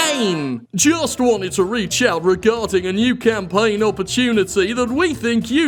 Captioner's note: said with Final Fantasy victory chime; mimicking voice